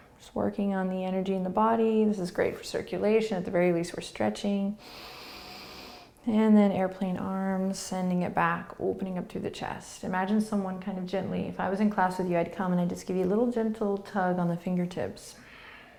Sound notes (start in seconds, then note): 0.0 breathing; 4.8 inhaling